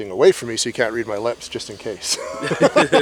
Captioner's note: laughs